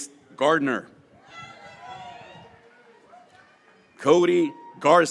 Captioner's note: graduates cheering